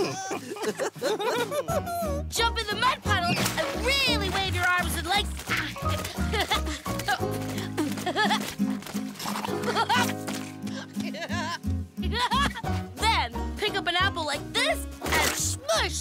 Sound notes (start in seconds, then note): 4.3 laughing and spitting; 10.7 giggling